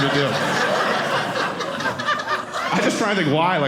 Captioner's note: audience laughing